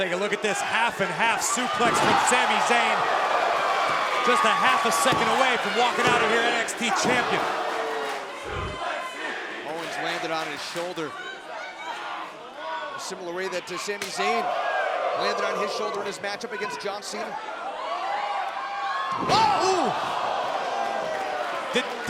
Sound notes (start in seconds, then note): 8.2 crowd cheering